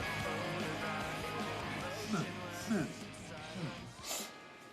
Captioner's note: snorting